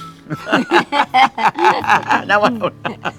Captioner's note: both laughing